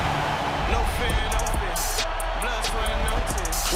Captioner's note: cheers and applause